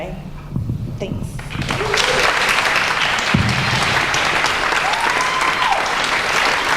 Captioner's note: applause